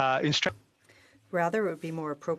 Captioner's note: speaking in French